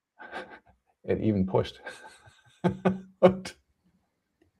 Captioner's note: laughs